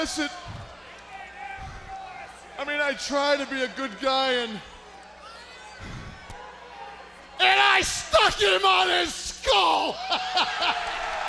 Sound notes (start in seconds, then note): 0.0 crowd cheering; 5.5 crowd chatter; 10.4 crowd cheering